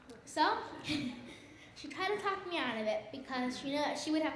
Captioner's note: laughs